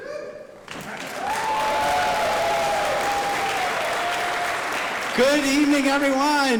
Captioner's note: audience applauding